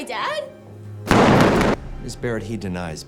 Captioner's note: gunshot blasts